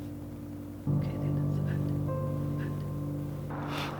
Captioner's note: whispering